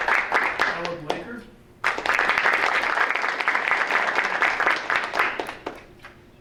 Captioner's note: audience applauding